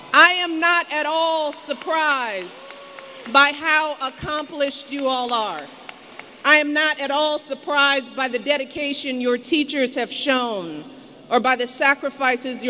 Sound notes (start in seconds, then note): 4.9 applause